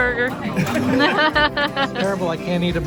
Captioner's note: laughs